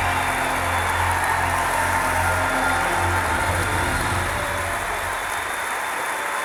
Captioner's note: clapping